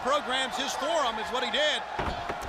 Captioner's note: crowd chatter